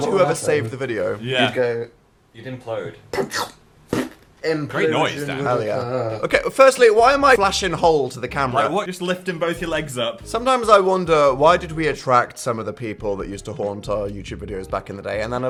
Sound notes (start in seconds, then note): 3.5 makes suction noise